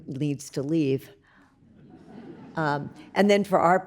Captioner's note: audience laughs